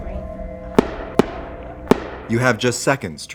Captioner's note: gunshots